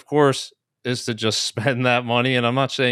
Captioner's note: chuckles